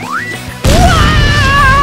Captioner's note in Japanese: ボーン！